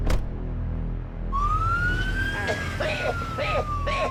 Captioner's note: siren; coughing